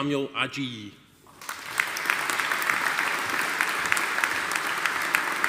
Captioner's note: audience applauding